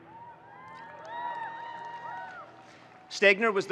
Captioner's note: audience cheers